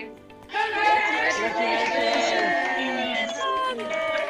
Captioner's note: cheering and applause